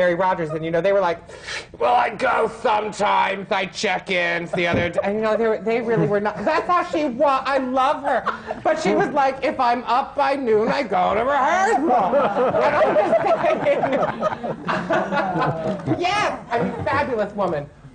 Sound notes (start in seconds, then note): 11.9 laughter